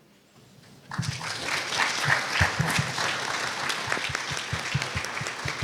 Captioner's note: applause